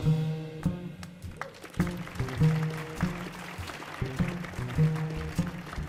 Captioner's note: audience applauding